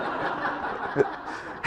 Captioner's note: laugh